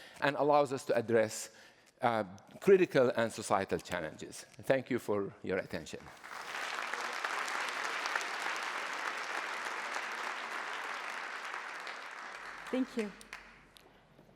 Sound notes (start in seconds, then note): 6.0 applause